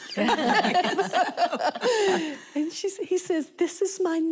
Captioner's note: laughter